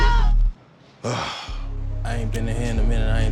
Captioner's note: beeping; sighs